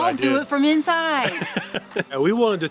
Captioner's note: laughs